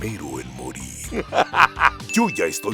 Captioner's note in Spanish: se ríe de algo